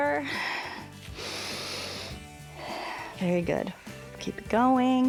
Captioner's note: inhales and exhales